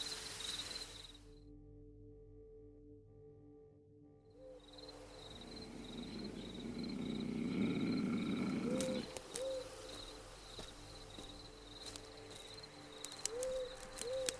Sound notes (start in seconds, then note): 6.8 animal growling; 11.1 branches rustling